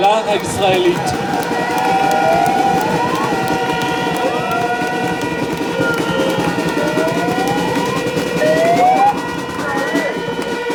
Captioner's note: applause